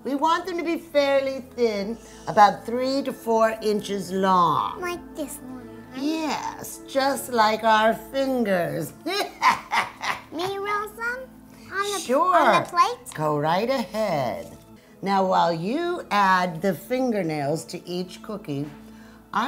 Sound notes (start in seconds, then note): 9.1 evil laugh